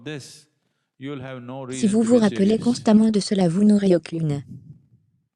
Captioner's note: laughs softly